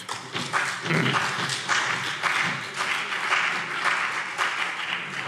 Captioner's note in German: Beifall